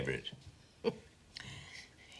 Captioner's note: chuckles